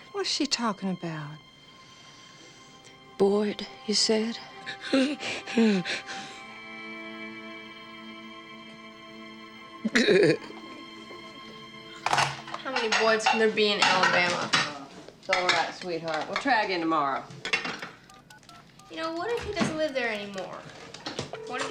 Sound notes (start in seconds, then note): 4.7 Lilly panting; 8.3 gentle music; 9.8 Lilly sobbing